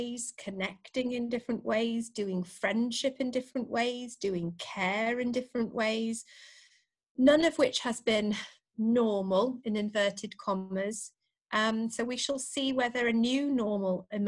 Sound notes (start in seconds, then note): none